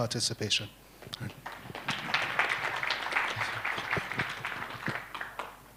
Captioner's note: applause